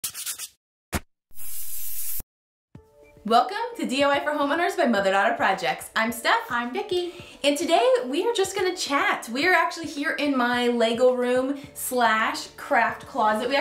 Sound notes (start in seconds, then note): 0.2 scratching; 1.4 spraying